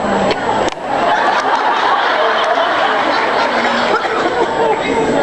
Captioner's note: laughs